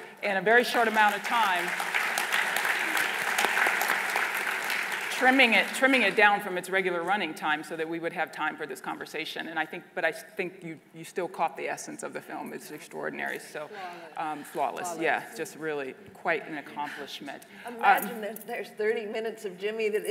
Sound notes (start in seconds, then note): 2.1 applause